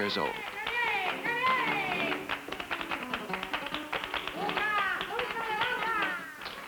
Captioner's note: flamenco music playing; clapping; children clapping